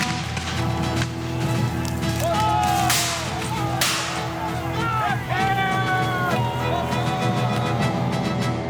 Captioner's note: guns continue to fire